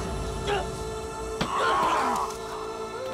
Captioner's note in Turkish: İnleme sesi; İnleme sesi